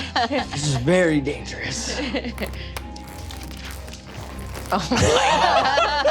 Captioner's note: latex squeaking